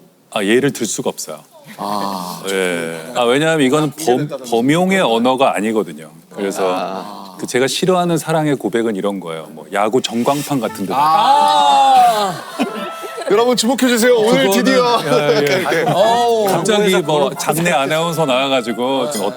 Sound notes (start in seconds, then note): 10.9 sighs